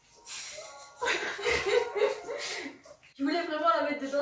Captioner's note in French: Rire de nous trois